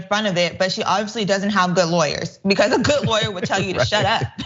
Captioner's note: laugh